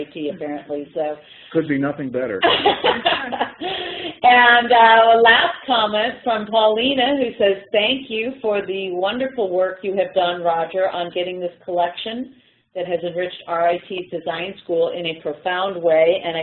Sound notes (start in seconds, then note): 2.4 laughter